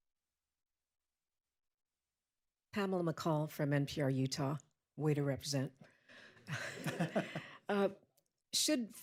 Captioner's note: laughter